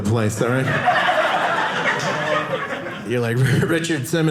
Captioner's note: audience laughing